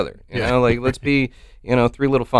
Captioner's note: chuckles